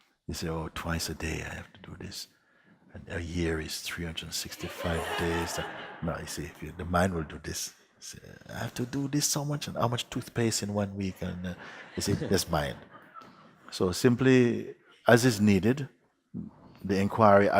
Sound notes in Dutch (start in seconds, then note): 4.5 Gelach; 11.5 Gelach